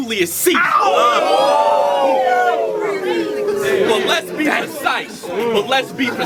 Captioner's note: crowd Reaction